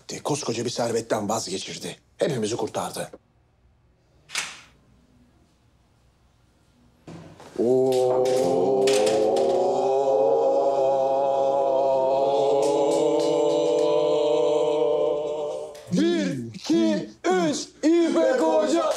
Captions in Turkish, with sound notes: Koskoca bir servetten vazgeçirdi. Hepimizi kurtardı. (Hep bir ağızdan) Ooo! (Hep bir ağızdan) Bir, iki, üç! İpek Hoca!